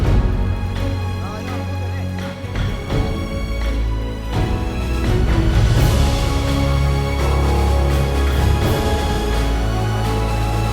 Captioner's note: crowd cheers